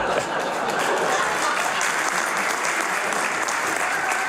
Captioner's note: laughter